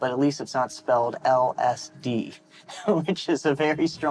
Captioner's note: laughing